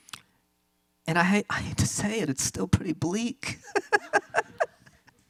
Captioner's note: laughs